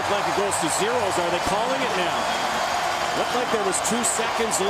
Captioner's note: cheering